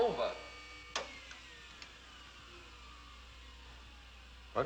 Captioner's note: button Clicks, Whirring Slows Down